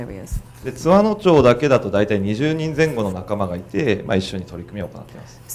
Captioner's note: speaking foreign language